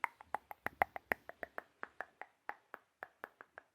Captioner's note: mouth sounds